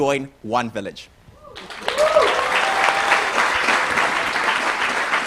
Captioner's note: applause